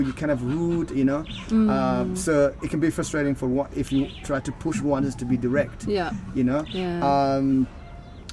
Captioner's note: hmm